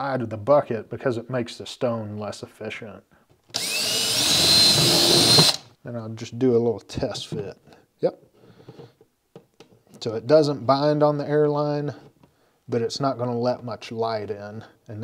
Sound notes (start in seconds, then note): 3.5 drill whirling